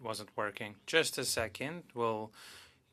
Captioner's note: speaking French